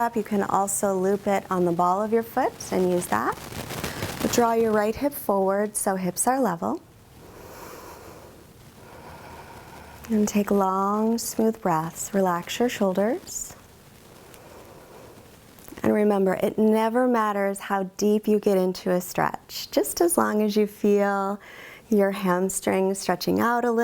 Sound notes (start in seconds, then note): 7.2 inhales; 8.7 exhales